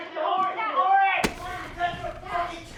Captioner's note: shouting